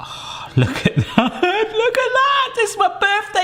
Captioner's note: laughing